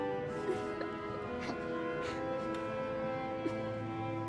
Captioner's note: <i> laughing</i>